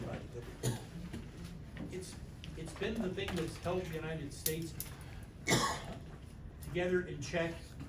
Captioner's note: coughs; coughs